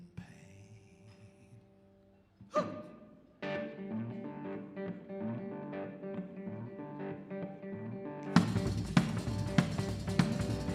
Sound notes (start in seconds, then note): 2.7 emotional music; 2.7 shouting